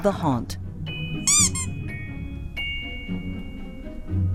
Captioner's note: squeak